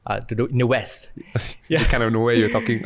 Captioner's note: chuckles